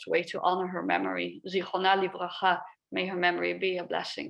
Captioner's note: speaks a foreign language